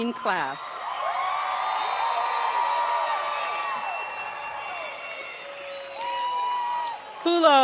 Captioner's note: shouts and applause